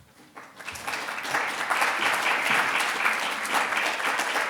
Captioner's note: audience applauding